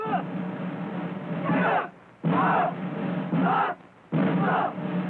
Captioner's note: shouting